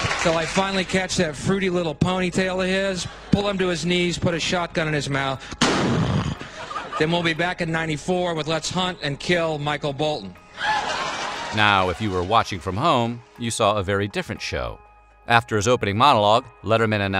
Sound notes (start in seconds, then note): 5.6 bang; 10.6 laughter